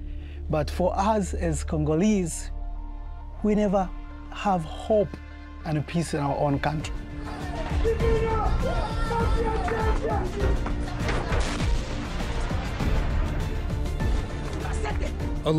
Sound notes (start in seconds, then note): 7.5 crashing; 7.5 yelling; 12.5 dramatic music